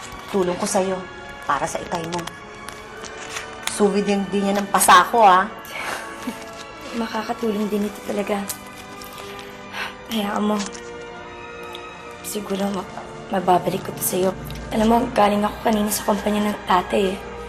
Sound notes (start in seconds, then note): 5.7 both chuckle; 9.6 sighs